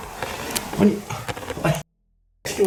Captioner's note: hahahahahahahaha